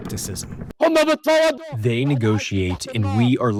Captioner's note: through translator